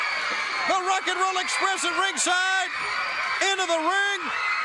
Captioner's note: crowd cheering